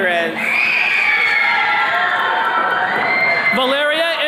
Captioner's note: attendees cheering